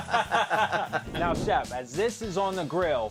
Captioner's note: laughing; air whooshing